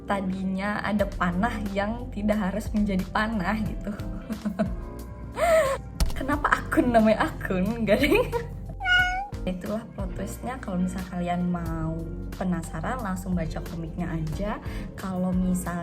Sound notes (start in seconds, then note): 5.4 giggles